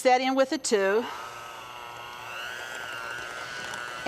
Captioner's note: mixer whirring